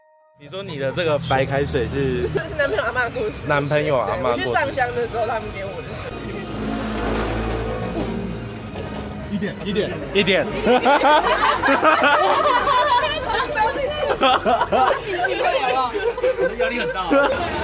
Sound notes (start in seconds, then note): 10.5 laughter